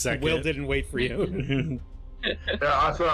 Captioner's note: giggles